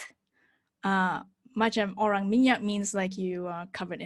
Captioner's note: speaks in foreign language